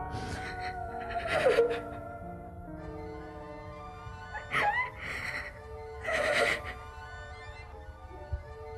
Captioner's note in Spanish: llanto